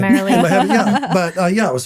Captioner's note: laughing